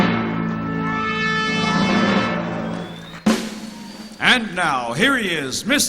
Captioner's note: audience cheering